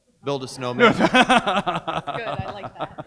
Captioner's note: audience laughs